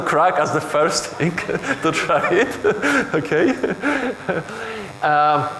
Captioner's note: chuckles